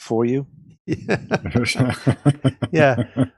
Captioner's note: laughing